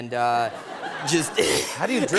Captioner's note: laughter